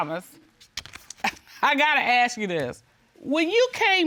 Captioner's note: scoffs